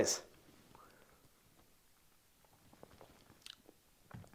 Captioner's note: sips tasty drink happily